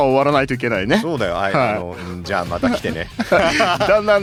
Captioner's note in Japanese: 笑い